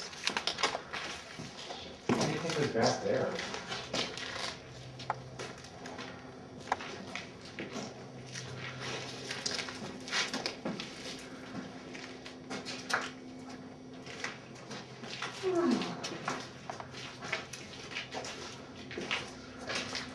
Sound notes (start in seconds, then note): 15.4 sighing